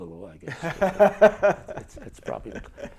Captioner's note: chuckles